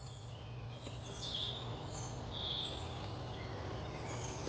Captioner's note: birds chirping